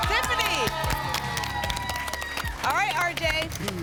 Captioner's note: applause